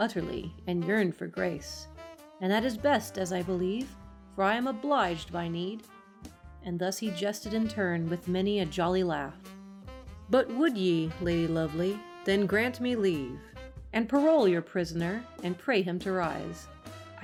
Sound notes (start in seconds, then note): none